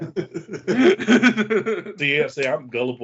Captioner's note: laughing